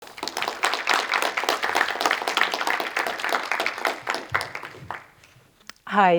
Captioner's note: applause